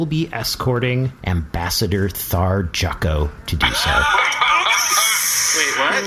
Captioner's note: laughs loudly